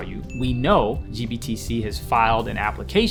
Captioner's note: ding sound effect